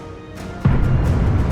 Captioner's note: muffled impact